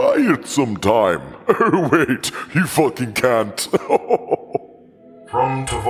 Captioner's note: empyrific chuckle